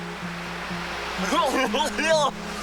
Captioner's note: silly laughing